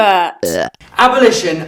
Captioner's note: burping buzzing sound